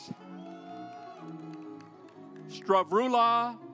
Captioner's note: audience applauds